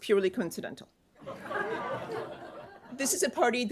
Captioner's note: laughter